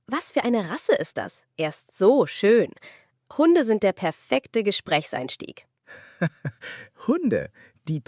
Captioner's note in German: gelächter